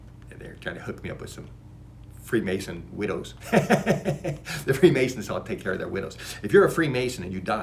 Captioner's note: laughs